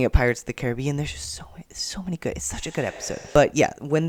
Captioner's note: reverb